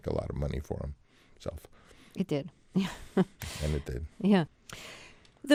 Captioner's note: laughter